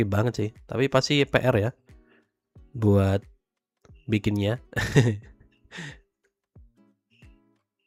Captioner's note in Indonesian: tertawa